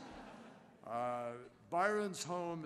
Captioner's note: laughter